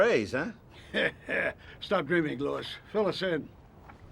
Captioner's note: laughs